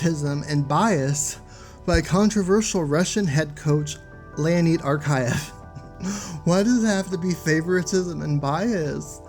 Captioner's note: laughs